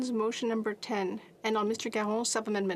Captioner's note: speaking French